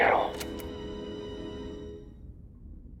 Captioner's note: tape clicks